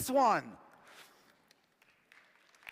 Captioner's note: applause